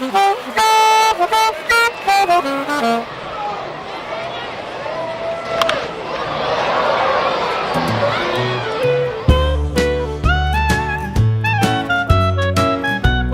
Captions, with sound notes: (Baseball crowd noise ) (Crack of ball on bat) (Crowd Cheers) Old-time Ragtime Jazz music. Song "I Want to be a Baseball Star."